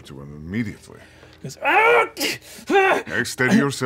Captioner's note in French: crie de douleur